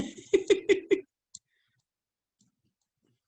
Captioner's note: laughs